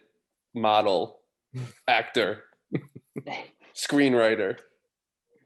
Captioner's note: laughter